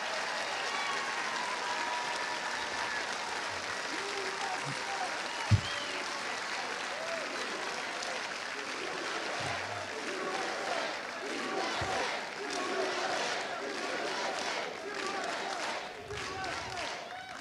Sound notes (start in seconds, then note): 1.2 cheers and applause